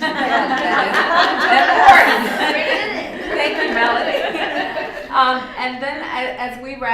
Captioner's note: laughter